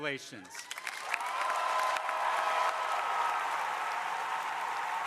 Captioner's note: crowd applauding